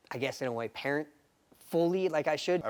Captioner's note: none